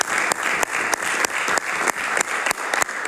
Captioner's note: applause